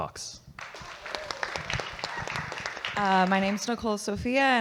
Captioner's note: audience clapping